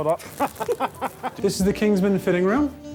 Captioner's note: laughs